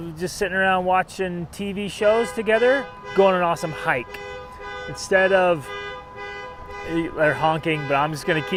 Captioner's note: honking